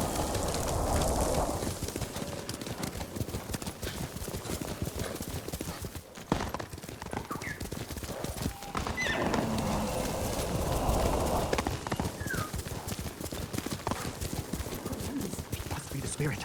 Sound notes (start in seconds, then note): 0.7 gun firing; 8.2 whistling